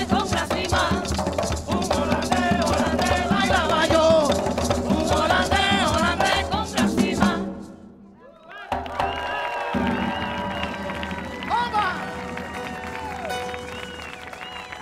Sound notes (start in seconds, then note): 8.2 audience cheering; 8.5 audience clapping